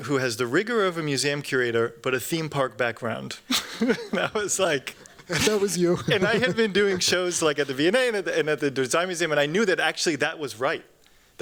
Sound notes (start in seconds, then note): 3.4 chuckles